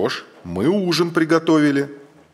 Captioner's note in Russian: мужской голос за кадром